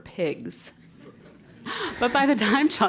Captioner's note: laugh